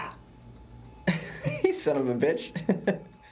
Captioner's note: پێکەنین